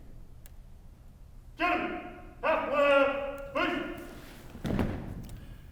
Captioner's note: marching commands